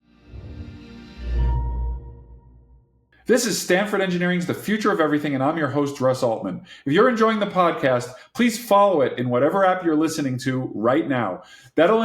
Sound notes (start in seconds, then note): 1.1 chiming tone